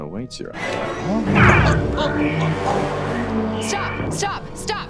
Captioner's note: dramatic music; grunting